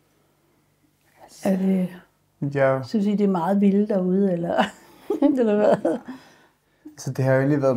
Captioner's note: laughing